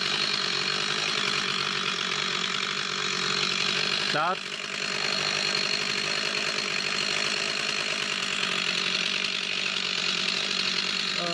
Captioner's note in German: Motorsägengeräusch